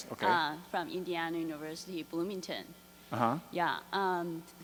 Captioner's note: voiceover